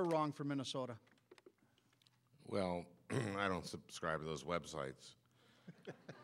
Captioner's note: clears throat